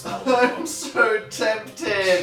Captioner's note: sobbing